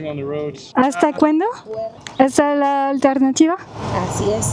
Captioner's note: in Spanish